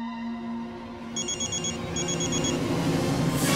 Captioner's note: phone ringing